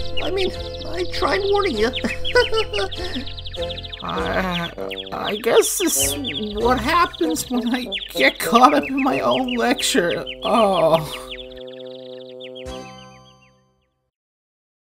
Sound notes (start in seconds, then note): 2.1 chuckles sheepishly; 3.9 groans